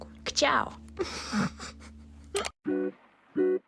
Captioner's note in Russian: хи-хи